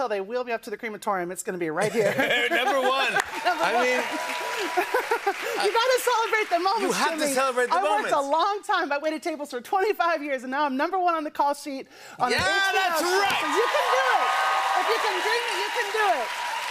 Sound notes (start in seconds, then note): 1.8 laughter; 2.8 cheers and applause